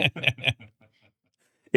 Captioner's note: both laughing